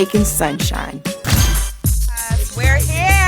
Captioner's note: snap